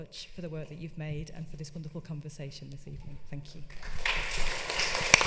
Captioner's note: clapping